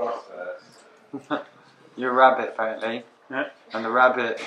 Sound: laughs

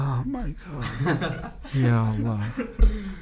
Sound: laughing

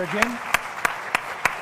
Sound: applause

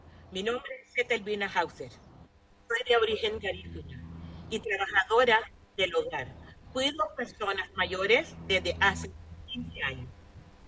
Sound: speaking spanish

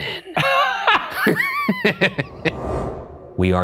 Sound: laughs

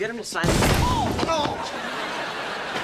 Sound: groaning

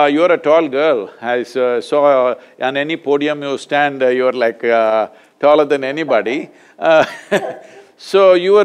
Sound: both laugh

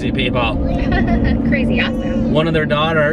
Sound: giggling

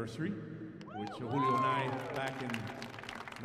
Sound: audience applauding

